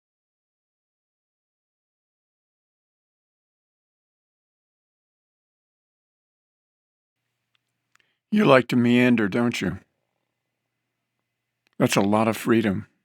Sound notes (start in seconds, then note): none